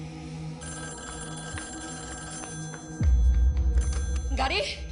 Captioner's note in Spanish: Suena el teléfono